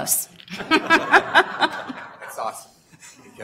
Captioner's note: laughter